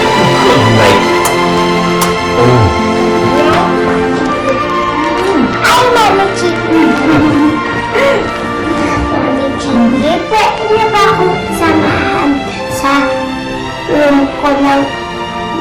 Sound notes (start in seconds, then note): 7.2 both laugh